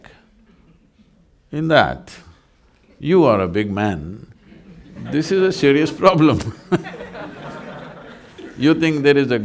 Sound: laughter

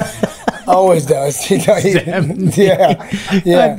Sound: laughs

